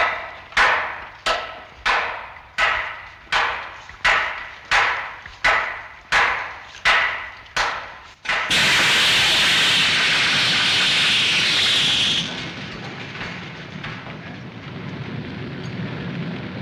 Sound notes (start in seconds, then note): 6.6 steam hissing